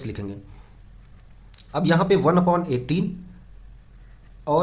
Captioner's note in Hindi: नाक से की जाने वाली आवाज़